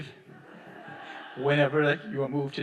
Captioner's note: audience applauding